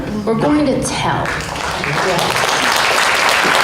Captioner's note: applause